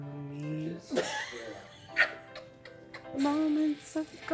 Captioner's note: laughing